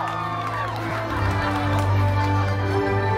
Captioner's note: guests cheering and applauding; guests laughing